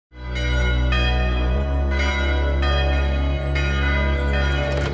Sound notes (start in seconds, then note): 0.1 church bells ringing